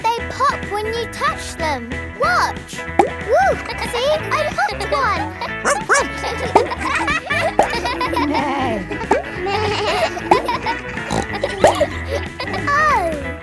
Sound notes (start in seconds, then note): 3.9 kids laughing; 5.6 barks; 8.6 bleats; 8.6 neighs; 11.6 snorts